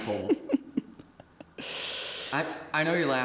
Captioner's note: Anubis giggling